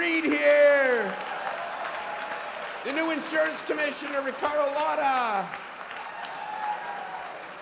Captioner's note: applause